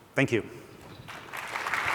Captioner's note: applause